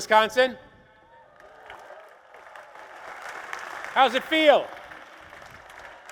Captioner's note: applause